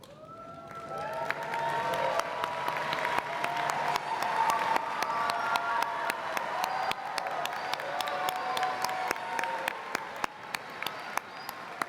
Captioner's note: applause